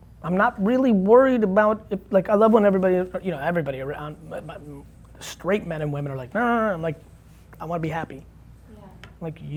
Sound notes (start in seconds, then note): 7.2 groaning